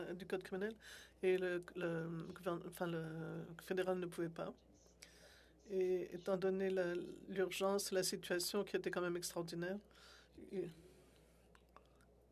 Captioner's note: speaking French